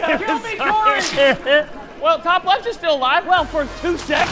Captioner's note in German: lacht